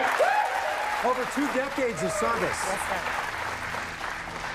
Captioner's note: cheers and applause